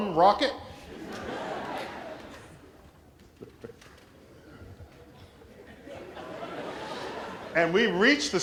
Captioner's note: laughter